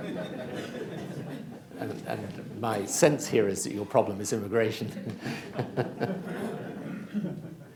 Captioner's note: laughter